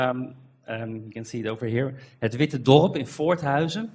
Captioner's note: foreign language